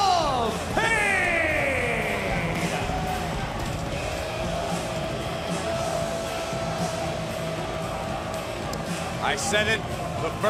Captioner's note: crowd cheering